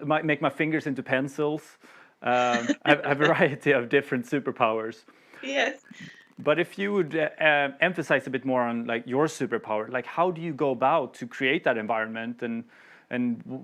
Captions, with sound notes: Make my fingers into pencils." Make my fingers into pencils." (Laughs) A variety of superpowers. If you could expand on your superpower, could